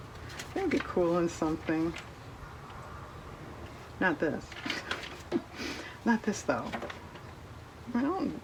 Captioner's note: laughs